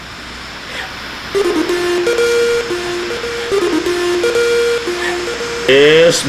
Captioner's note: radio broadcast